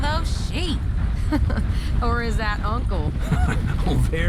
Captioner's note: laughs